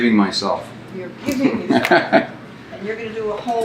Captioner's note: laughs